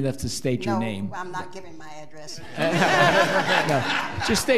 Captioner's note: laughing